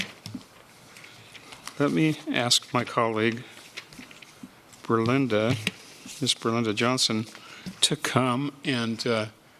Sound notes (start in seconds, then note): 0.0 A pause; 0.0 sound of pages turning